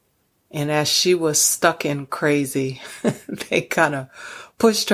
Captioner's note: chuckles